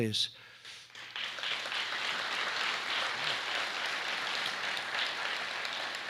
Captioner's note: applause